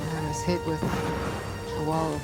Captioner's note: flames explode